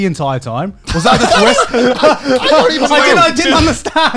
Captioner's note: overlapping laughter and chatter